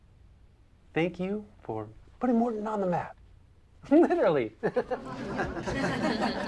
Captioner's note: group laughing; laughs